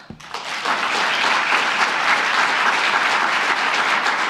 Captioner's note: applause